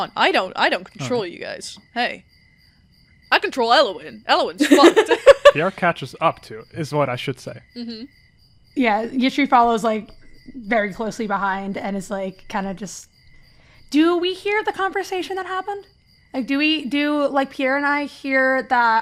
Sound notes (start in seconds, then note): 4.6 laughs